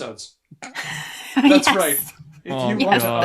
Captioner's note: laughs